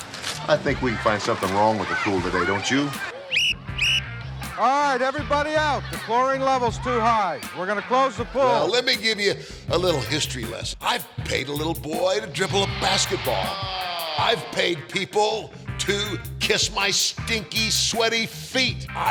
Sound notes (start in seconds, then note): 3.2 sharp whistling